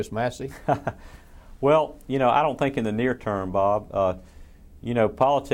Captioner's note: laughs